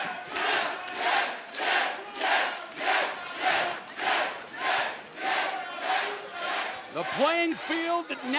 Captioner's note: crowd cheering